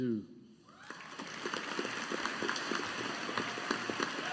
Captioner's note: audience applauding